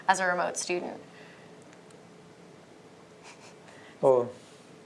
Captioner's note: laughter